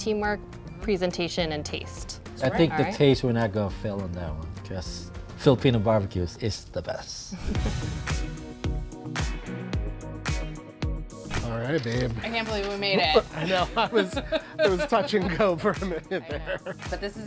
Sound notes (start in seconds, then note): 6.8 bright upbeat music; 7.4 chuckles; 12.8 laughs